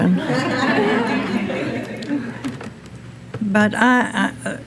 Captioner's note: audience laughing